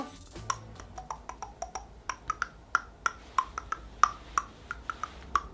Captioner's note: making mouth sounds